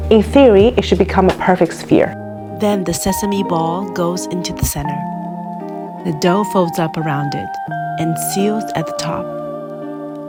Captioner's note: voice over